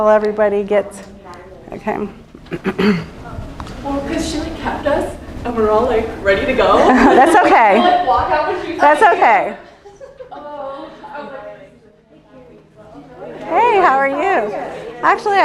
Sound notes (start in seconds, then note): 4.3 chatter